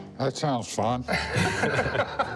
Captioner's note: laughter